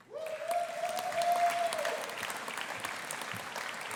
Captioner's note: audience applauding